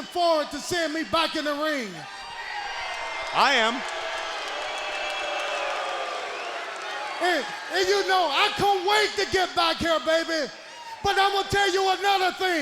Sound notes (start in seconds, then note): 2.4 audience cheering